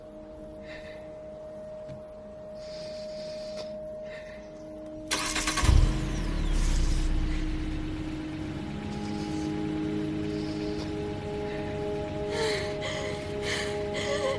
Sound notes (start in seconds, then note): 0.1 breathing shakily; 5.0 engine starting; 7.6 breathing shakily; 11.1 breathing heavily